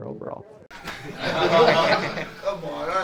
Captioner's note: audience laughs